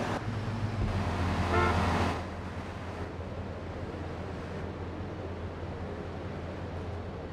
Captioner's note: car engine roaring; car horn honking